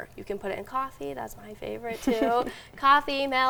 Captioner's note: laughing